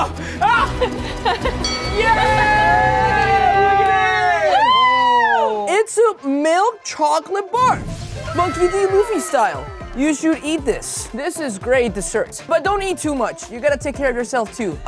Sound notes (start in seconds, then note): 1.2 everyone laughing and exclaiming; 1.6 bell dings; 8.2 girl wooing; 10.6 upbeat music